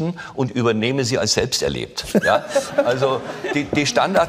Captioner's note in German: Lachen